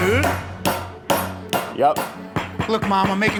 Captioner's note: rolling pin thwacking